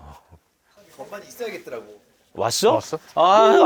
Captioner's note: murmuring